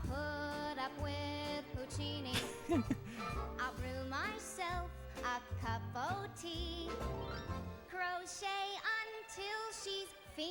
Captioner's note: chuckles